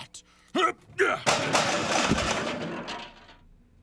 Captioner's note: top clatters loudly on floor